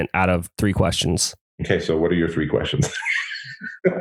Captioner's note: laughs